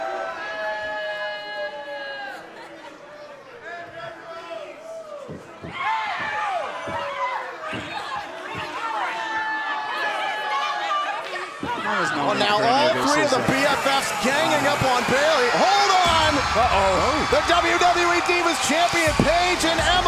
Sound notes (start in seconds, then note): 6.9 cheers & boos